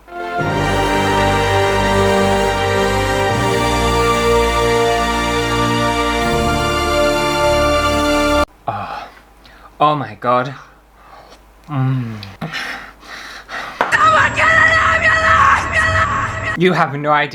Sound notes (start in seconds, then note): 0.0 epic music; 12.5 heavy Panting